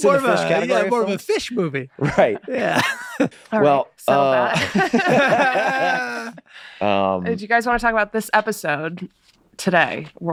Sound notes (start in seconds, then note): 4.3 all laughing